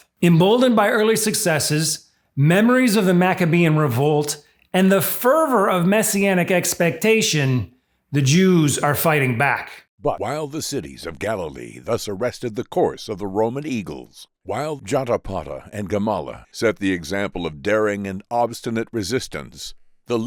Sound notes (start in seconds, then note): 10.0 voiceover